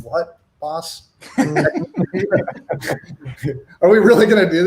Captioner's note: laughs